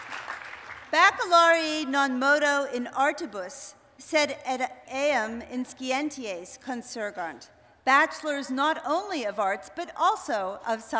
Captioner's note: speaking latin